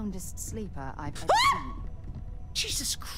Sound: scream

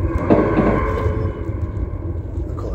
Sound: knock from the left

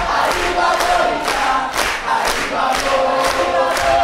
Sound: characters clapping

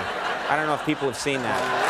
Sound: audience laughing

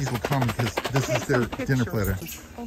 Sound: food container rattling

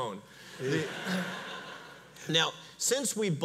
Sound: audience laughs

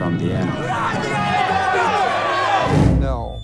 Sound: people shouting

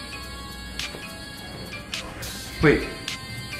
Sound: phone rings

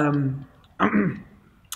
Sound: clears throat

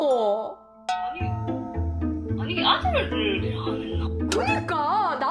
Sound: confused

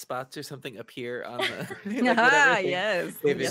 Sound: all laughing

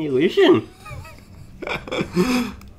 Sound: laughs

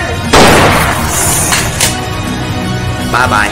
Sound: gunshot

